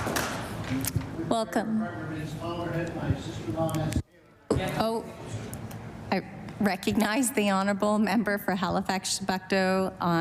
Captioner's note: applause